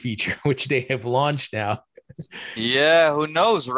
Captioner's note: chuckles